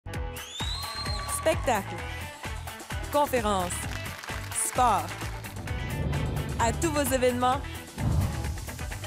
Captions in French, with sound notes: (acclamations de public) Spectacles, conférences, sports... À tous vos événements,